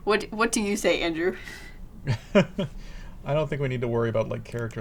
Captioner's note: laughs